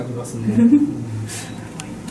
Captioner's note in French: rires